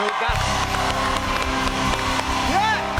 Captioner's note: cheers and applause